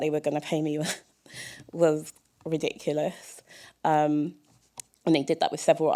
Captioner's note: chuckle